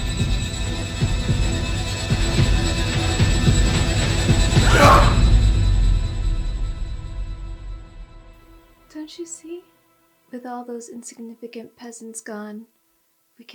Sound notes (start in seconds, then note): 0.0 suspenseful music; 4.6 group yelling